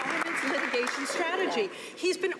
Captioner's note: some Applause